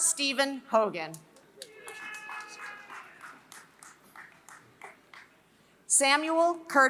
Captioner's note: applause